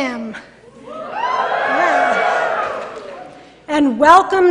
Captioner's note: cheering